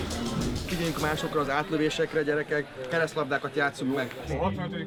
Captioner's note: speaking in football lingo